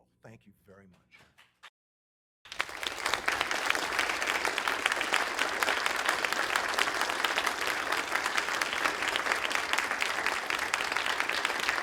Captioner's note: applause